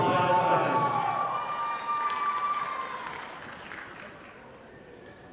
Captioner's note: audience applauding